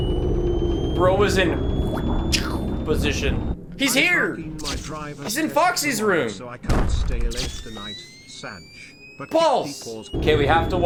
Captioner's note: imitates the sound of a punch